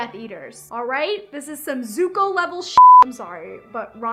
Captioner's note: beep